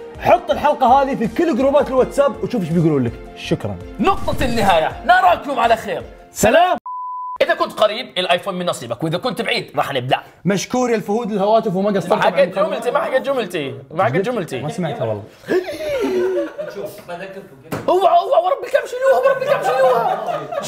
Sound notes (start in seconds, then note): 15.3 gasps; 15.4 laughs